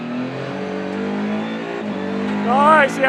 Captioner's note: car engine roaring